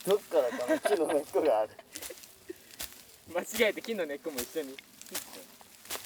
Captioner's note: laughs